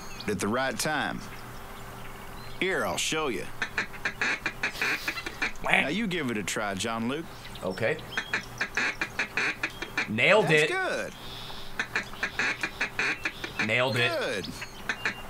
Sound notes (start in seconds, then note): 3.6 duck call noises; 11.5 so much quacking; 11.7 duck call